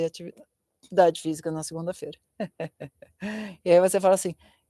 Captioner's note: laughter